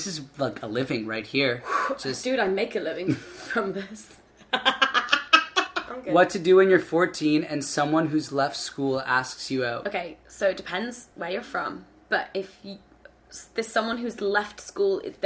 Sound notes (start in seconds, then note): 4.5 laughing